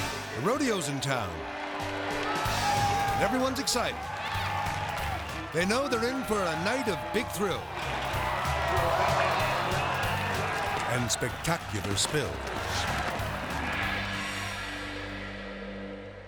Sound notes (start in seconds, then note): 4.4 crowd cheering; 13.9 dramatic music